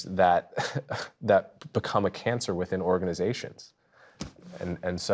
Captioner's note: laughing